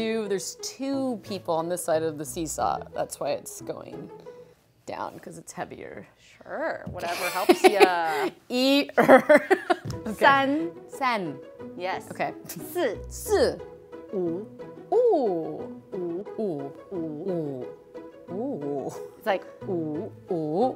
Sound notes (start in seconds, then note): 7.0 laughs